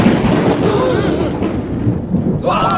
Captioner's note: gasp; cheers and applause